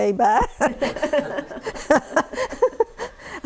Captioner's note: laughter